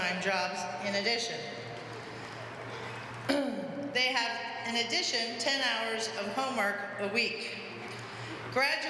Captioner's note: cough